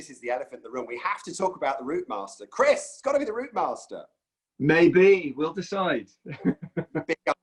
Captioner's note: laughs